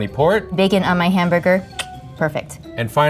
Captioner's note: tongue clicks